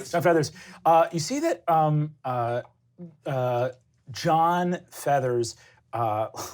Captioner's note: laughs